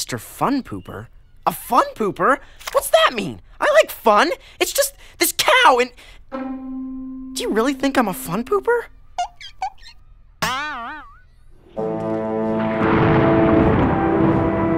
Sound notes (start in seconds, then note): 12.5 thunder rumbles